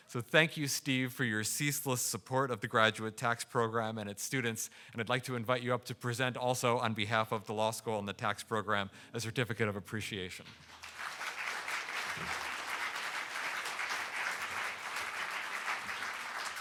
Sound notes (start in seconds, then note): 10.6 audience applauding